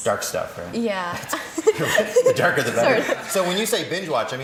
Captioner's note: laughter